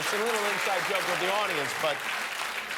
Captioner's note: laughter and applause